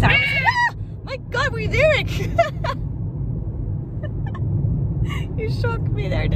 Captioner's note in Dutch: gelach